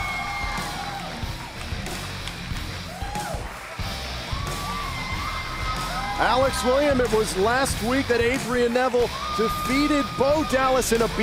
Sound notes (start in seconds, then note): 7.0 crowd cheering